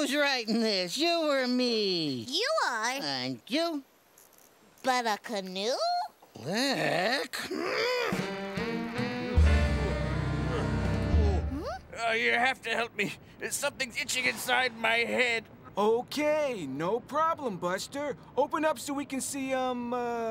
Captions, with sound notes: Hey, who's writing this, you or me? You are. Thank you. But a canoe? Click...! ( growls ) You have to help me. There's something itching inside my head. Okay, no problem, Buster. Open up so we can see, um...